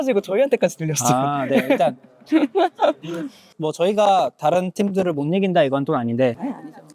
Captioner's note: laughs